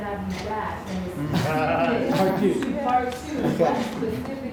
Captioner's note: audience chatter in agreement